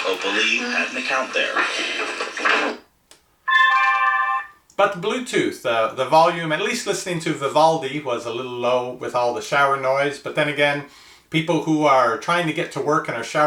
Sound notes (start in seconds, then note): 0.4 man On Radio; 3.4 speaker chimes